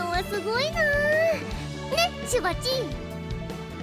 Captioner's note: none